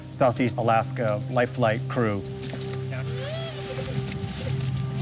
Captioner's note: cries